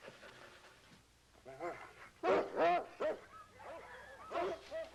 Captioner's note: barking